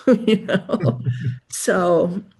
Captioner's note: chuckles